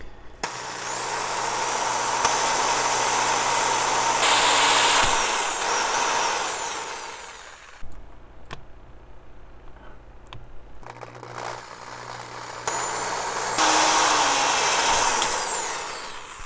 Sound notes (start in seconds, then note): 0.4 drilling; 12.4 drilling